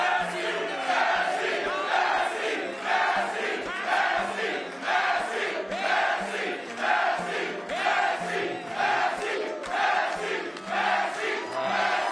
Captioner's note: applause